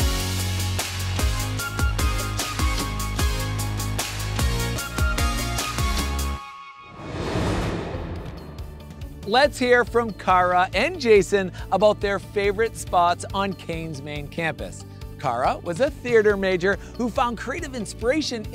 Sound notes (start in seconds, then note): 0.0 upbeat music; 6.9 air whooshing